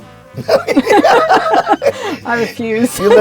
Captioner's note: laughing